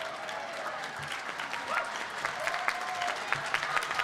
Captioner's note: applause and cheering